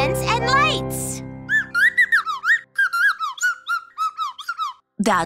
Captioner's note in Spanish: chirridos